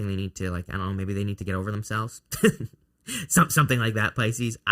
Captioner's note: laughs